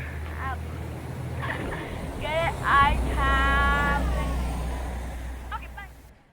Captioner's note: laugh??